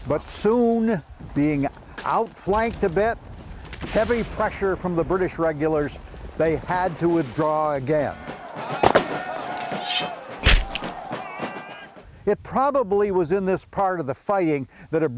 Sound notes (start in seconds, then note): 8.0 people screaming; 8.8 guns cracking; 9.4 metal whooshing